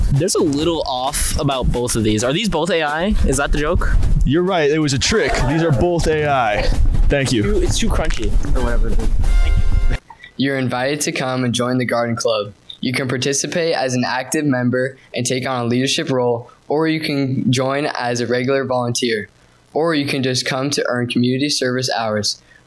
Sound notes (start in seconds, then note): 5.4 whoo sound effect; 8.0 crunching sound effect; 9.2 nat sound with music fades out